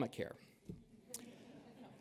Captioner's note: laughter